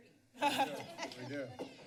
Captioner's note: laughs